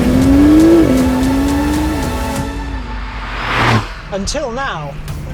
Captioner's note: engine continues revving